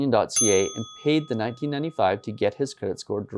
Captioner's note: bell dinging